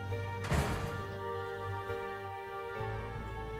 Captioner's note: door slams